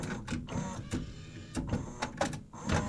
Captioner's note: second whir again